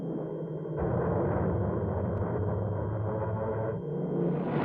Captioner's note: plane engines roaring